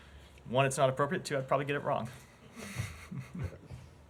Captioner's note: laughter